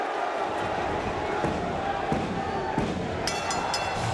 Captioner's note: hand pounding; bell dinging